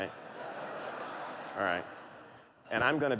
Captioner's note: laughter